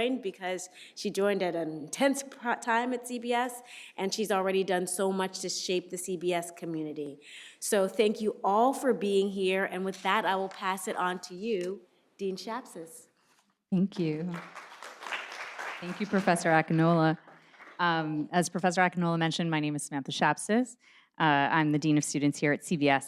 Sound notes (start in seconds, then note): 14.2 audience applauding